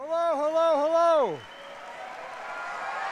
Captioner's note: applause